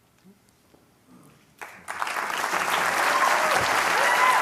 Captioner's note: applause